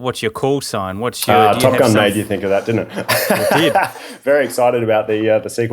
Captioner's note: laughing